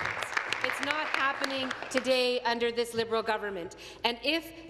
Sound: applause

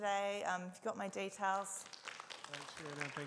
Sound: audiences applauds

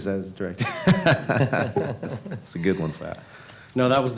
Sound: laughter

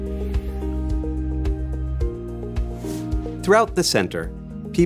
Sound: air whooshing

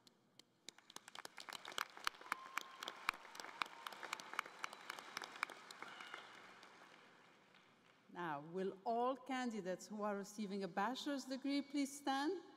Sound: cheering and Applause

